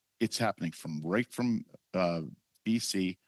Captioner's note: speaking French